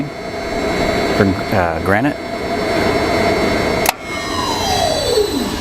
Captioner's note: saw spinning... saw stops